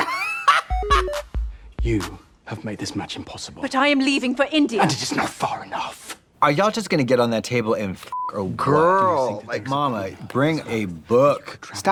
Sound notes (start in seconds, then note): 0.3 Trixie cackles; 0.3 musical flourish; 8.1 beep